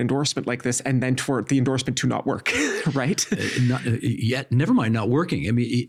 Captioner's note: chuckling